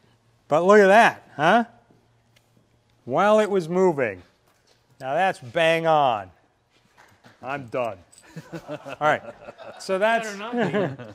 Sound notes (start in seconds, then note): 8.2 laughter